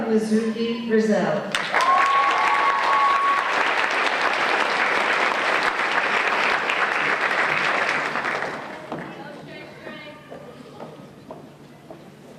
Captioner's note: applause and Cheers